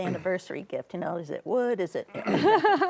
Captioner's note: laughs